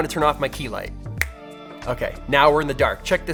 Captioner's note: snapping